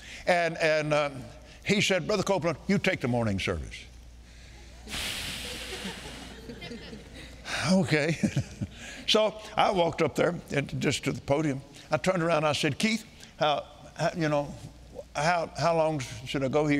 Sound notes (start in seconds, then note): 4.8 blowing loudly; 5.4 laughing